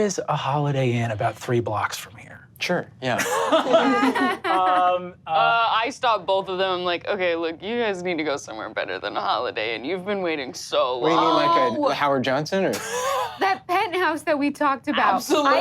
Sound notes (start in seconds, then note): 3.2 all laugh